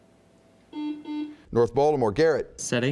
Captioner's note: buzzing